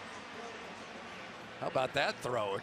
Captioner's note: pa announcement